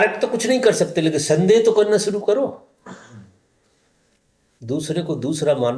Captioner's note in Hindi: गला साफ़ करने की आवाज़